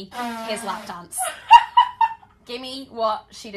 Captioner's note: laughter